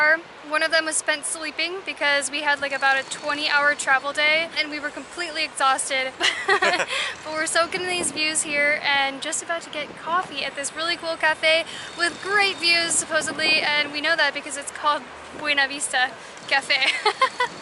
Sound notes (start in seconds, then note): 6.2 both laughs; 16.8 giggles